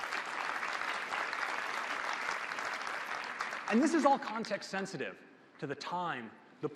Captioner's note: applause